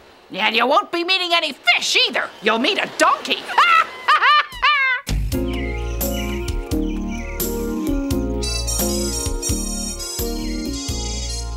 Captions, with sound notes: - And you meeting any fish, either. You'll meet a donkey. (laughs) (gentle instrumental music)